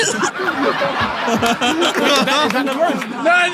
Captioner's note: laughs; people in room laughing